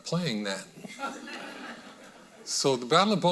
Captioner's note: audience laughing